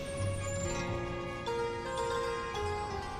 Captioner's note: horns honking